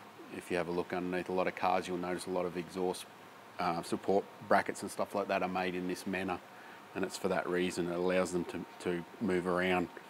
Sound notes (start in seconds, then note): none